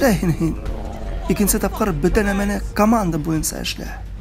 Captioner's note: guards profanely arguing in the distance